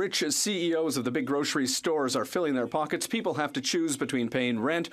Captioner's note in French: voix de l'interprète